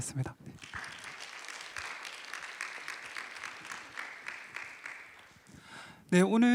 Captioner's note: applause